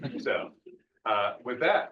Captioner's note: audience chuckling